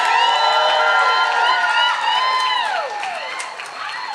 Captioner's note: cheering